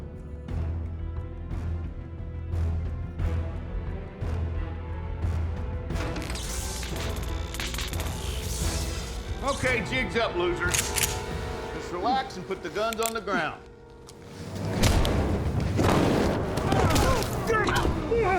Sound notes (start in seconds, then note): 0.2 tense music; 6.1 short-circuiting, crackling; 10.7 rifle clicks; 14.1 thud; 15.7 rifle shot fired; 16.5 thud, groans